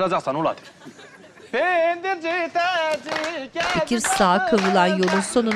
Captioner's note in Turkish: Alkış sesleri